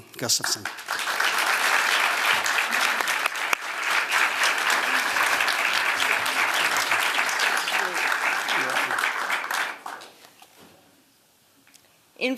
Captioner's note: applause